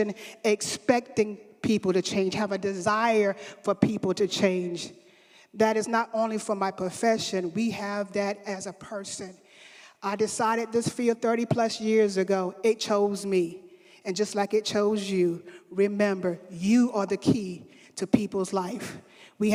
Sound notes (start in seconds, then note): none